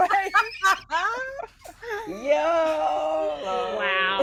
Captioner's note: everyone laughs